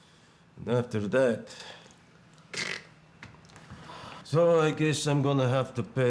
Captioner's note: vocalizes slitting